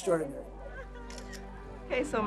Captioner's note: mock cries; camera clicking